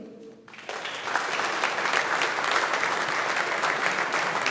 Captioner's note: audience applauding